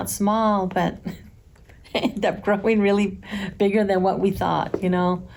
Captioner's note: chuckles